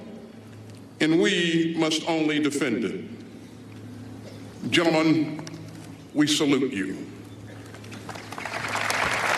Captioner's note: applause